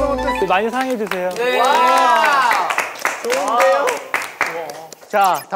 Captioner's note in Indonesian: tepuk tangan